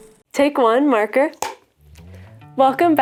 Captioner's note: slate claps